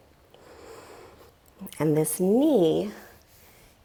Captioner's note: deep breathing sounds